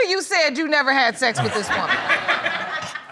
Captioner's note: audience laughing; chuckling